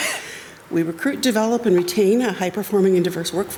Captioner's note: attendee coughs